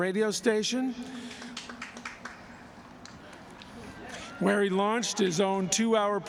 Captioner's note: applause